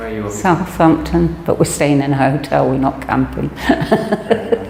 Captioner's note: laughs